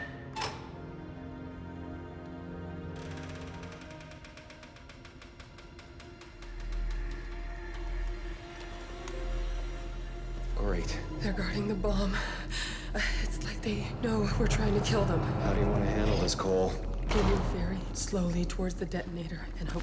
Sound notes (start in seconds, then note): 0.0 lock clicks; 2.8 door creaking